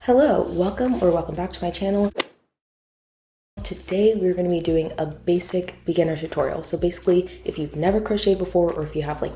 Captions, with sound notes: Hello, welcome or welcome back to my channel. *Golf hit sound effect* Today we're going to be doing a basic beginner tutorial. So basically, if you've never crocheted before or if you have